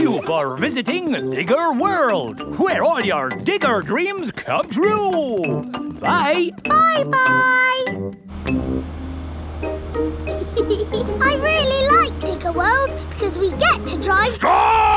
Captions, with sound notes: Thank you for visiting Digger World, where all your digger dreams came true. -Bye! -Bye-bye! (GEORGE CHUCKLING) I really liked Digger World because we get to drive...